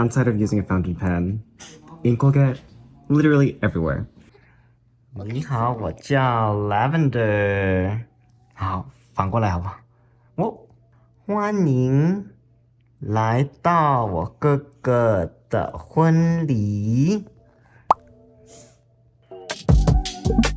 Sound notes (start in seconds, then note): 4.3 giggling; 4.3 in Mandarin